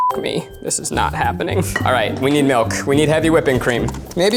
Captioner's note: beeps